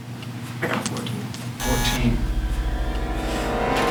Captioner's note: buzzer sound